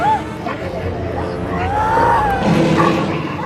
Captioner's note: Madeleine screaming